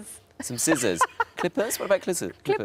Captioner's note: Sarah laughs